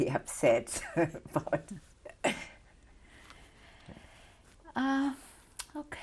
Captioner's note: laughs